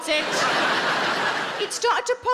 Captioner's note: audience laughing